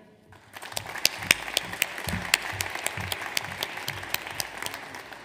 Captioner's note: audience applauds